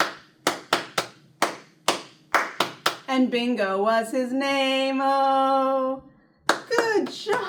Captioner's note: clap